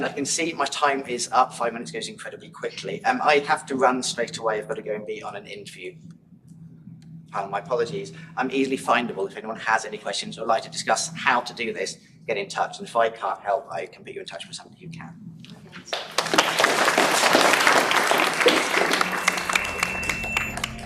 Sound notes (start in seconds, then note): 15.8 applause; 18.7 drone-like music